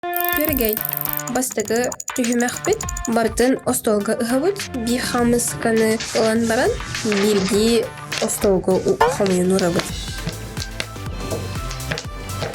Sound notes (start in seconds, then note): 0.1 skylark